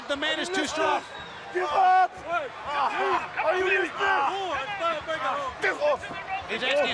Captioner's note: crowd chatter